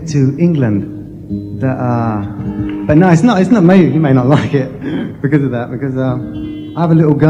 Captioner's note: laughs